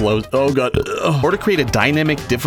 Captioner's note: burps